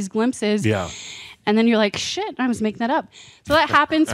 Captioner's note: chuckles